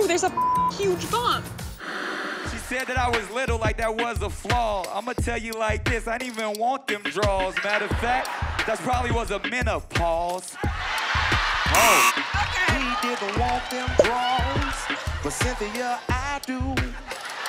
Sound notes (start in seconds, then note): 0.3 beep; 10.5 crowd laughs; 11.7 buzzer beeps